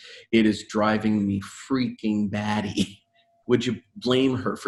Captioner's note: chuckling